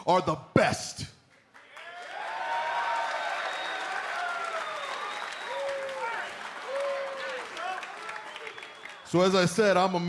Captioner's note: cheers and applause